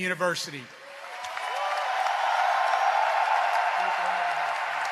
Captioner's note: cheering and applause